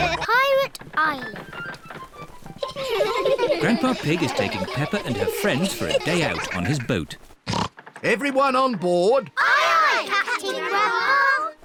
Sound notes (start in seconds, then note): 2.5 children laughing; 7.4 oinks